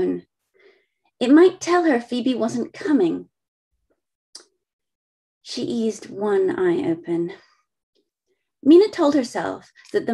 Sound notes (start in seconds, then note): none